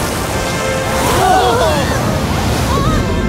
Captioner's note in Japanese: 観客たちの悲鳴